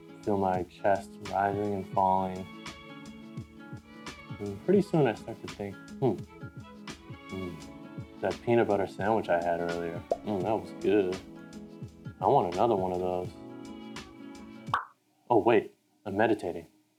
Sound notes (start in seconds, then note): 14.7 pop!